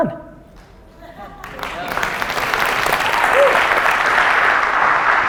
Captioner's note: audience applause